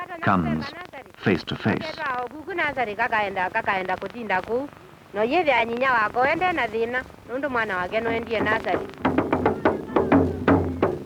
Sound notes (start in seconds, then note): 2.7 non-English speech; 5.5 non-English speech; 7.7 drumming